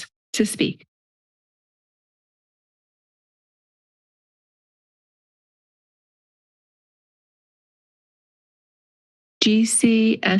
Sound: pause

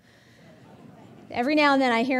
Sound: audience laughing

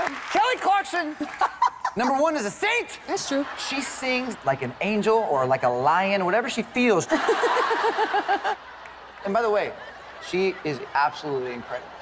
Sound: laughter

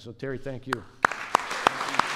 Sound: applause

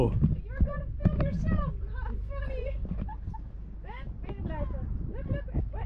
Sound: chuckling

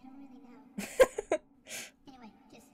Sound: laughs

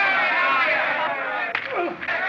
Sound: groans

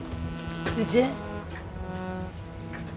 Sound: Amma speaks to her mother in malayalam

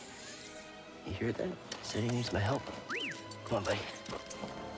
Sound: excited whistle

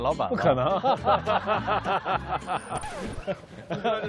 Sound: hahahahaha

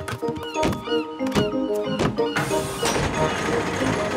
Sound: gulls squawking

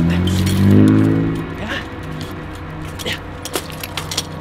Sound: engine revs

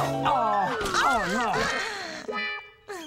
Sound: splat!

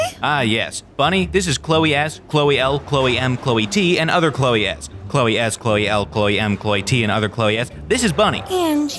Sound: none

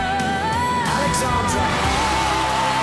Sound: audience cheering

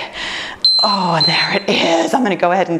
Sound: timer beeps

